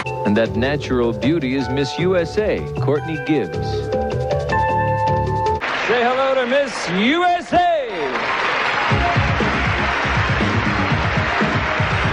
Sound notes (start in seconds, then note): 3.3 uplifting music; 8.2 crowd applauding; 8.9 upbeat pop music